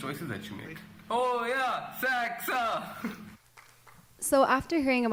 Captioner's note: speaking in foreign language